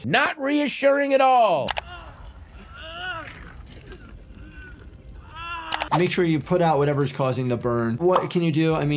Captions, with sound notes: - Not reassuring at all. (Obiwan groaning) - Make sure you put out whatever's causing the burn. What can you do?